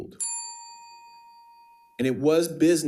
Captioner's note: bell ringing